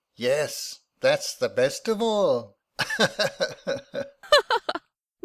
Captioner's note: they both laugh